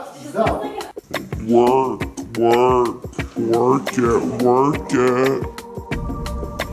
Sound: distorted, slowed voice

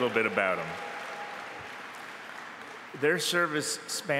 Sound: applause

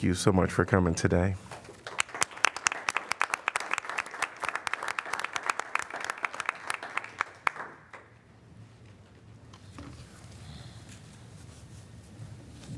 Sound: applause

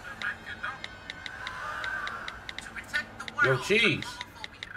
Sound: typing on phone

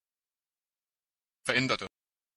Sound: fast Pronunciation

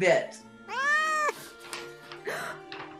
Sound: cat meows; Both gasp, AGATHA squeaks

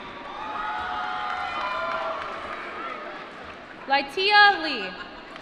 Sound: applause

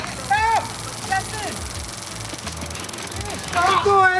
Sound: taser crackling; shouts

